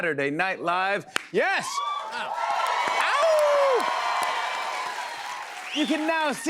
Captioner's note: cheers and applause